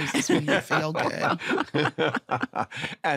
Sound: laughter

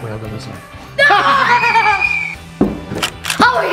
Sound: screams

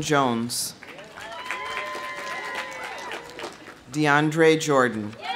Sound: audience applauding; audience cheering

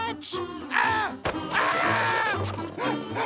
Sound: screaming

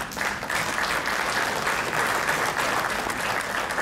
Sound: crowd clapping

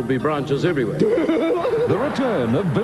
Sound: laughter

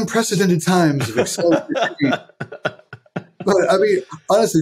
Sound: laughing

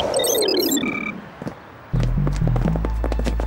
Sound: computer sounds

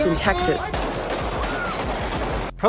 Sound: gun bangs

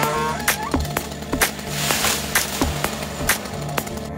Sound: tree limb crashes; chainsaw roars

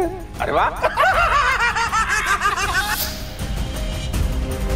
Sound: laughing

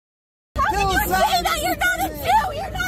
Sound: people talking in video clip

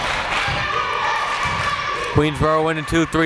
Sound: crowd chanting defense

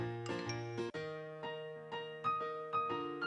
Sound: chime

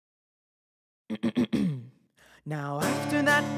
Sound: clears throat; sings

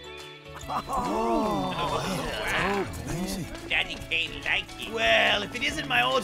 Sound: excited murmuring

